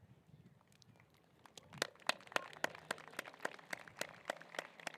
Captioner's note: applause